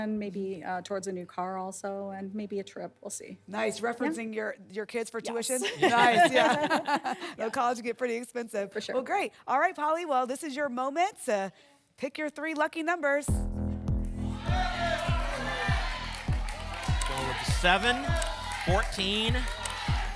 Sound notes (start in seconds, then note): 14.3 audience shouting numbers